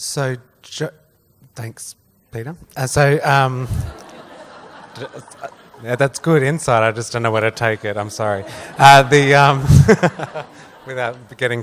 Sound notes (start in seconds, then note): 3.8 laughs; 9.5 laughs